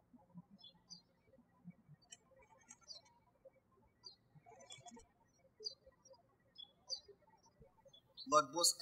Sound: birds chirping

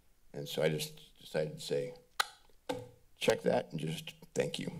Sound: clicks tongue

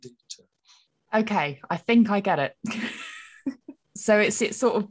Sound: laughs

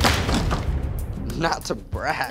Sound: door thuds

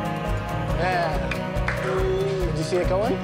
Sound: claps

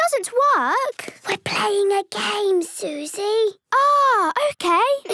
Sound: whispering

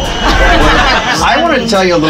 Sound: riders laugh

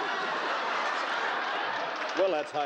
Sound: laughing

